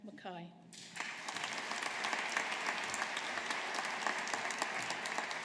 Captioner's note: audience applauding